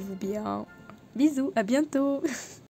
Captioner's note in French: rire